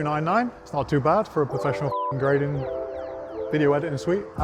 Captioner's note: beep